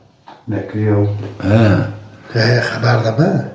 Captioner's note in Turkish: boğazını temizler